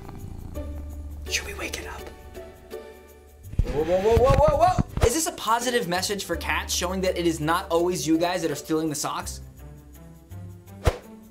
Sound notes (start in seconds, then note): 1.2 whispers